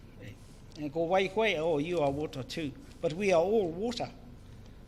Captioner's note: speaks in foreign language